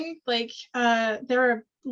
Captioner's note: none